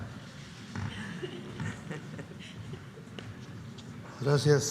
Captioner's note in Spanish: risas